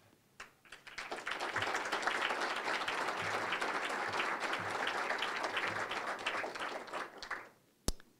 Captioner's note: applause